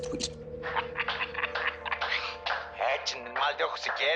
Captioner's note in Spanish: Risas